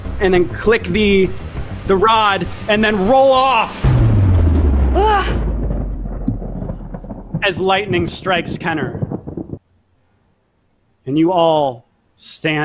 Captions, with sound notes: and then click the, the rod, and then roll off, (thunder rumbling) as lightning strikes Kenner, and you all stand around